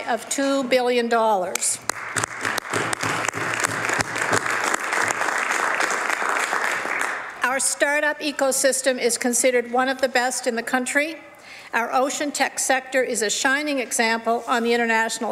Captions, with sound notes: FOR 2017 BEING AT AN ALL-TIME HIGH OF $2 BILLION. [ Some Applause ] OUR START-UP ECO SYSTEM IS CONSIDERED ONE OF THE BEST IN THE COUNTRY. OUR OCEAN TECH